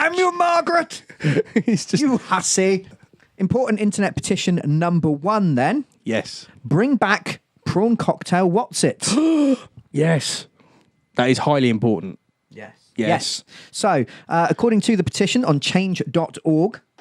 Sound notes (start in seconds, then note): 9.2 gasps!